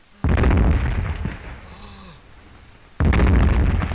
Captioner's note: gasping